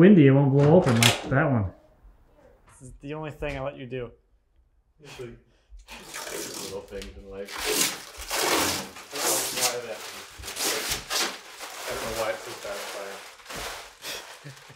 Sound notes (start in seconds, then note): 5.9 plastic ripping; 10.9 plastic ripping; 14.3 laughing